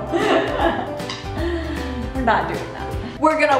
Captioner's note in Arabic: يضحك